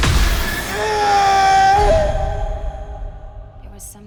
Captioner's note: Stone screams